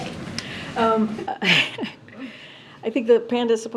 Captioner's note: laughs